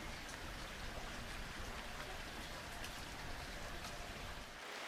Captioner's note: water splattering